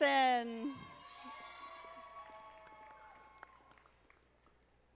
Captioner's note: audience applauding